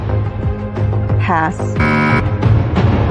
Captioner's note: buzzer sounds